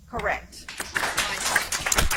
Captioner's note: audience applauds